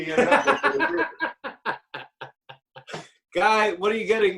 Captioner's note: laughing